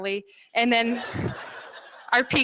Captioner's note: laughter